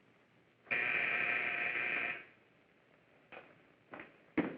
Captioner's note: buzzing